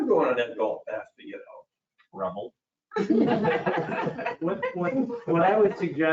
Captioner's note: all laughs